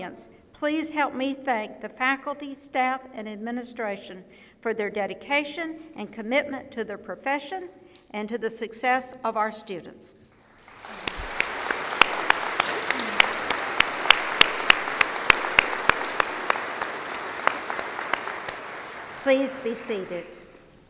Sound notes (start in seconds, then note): 10.3 applause